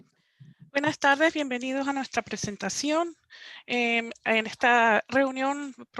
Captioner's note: woman speaking in foreign language